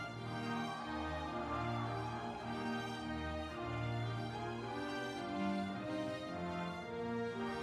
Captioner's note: audience cheering